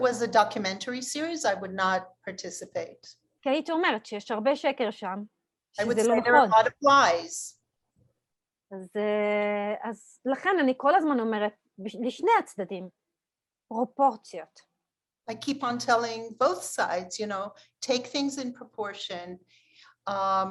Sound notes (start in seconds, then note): 3.2 Hebrew